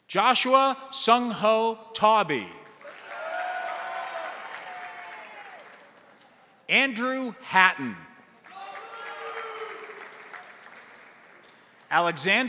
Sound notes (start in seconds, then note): 2.6 crowd applauding; 2.8 crowd cheering; 8.2 crowd applauding; 8.4 crowd cheering